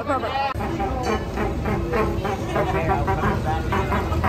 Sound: horn beeps

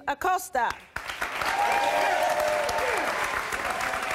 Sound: applause

